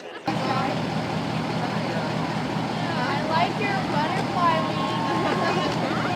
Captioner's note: engine noise